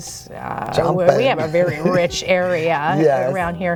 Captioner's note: chuckles